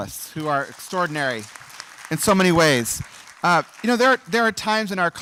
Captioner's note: applause